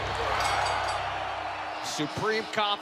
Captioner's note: bell ringing